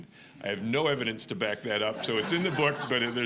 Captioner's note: audience laughing